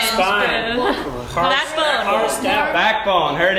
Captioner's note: laugh